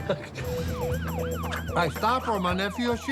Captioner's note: Si laughs; siren wailing